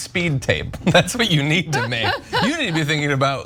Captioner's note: laugh